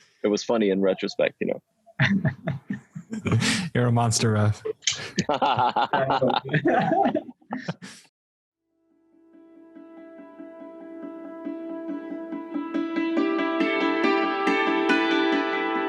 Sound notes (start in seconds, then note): 4.6 laughing